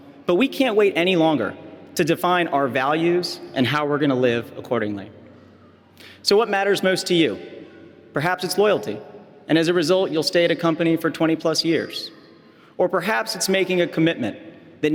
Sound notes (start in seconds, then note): none